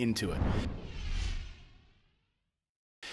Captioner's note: whoosh